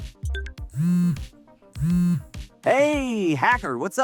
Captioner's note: phone vibrates